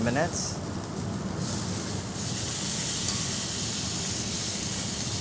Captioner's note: steak sizzling in pan